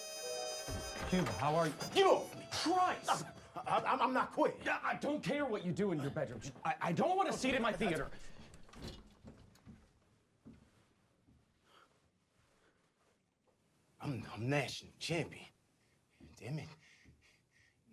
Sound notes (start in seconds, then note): 0.4 door opens